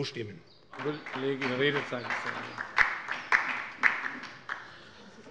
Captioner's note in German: Beifall bei der LINKEN